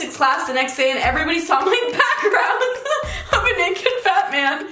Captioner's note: giggling